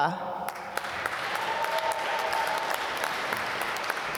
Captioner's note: applause